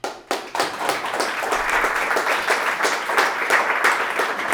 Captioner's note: crowd applause